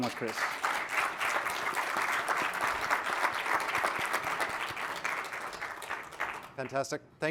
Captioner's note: applause